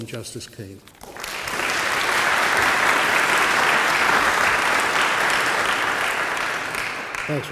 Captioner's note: applause